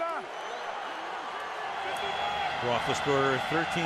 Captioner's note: cheering